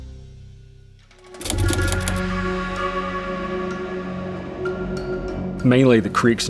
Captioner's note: dramatic music; typewriter clatters